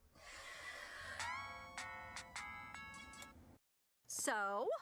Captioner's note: inhale; ringtone